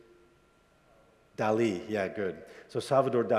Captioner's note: student speaks faintly